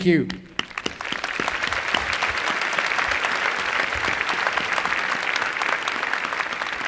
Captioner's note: applause